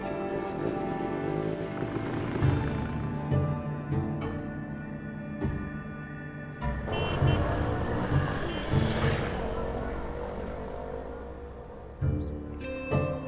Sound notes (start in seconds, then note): 0.4 engine whirs; 6.7 engines whir; 6.7 horns honk; 9.7 bell rings